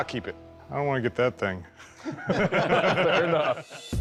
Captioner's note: laughter